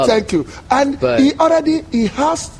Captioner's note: laughs